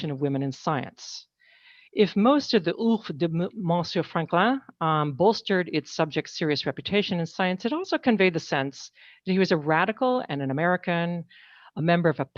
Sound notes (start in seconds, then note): 2.8 speaking french